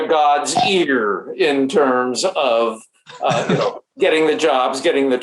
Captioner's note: laughs